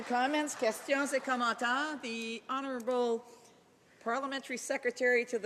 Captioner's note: applause